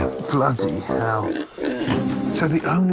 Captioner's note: pig oinking